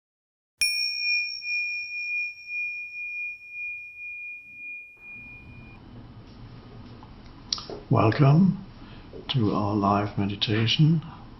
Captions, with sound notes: (bell chimes) - Welcome to our live meditation.